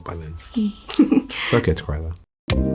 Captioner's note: chuckles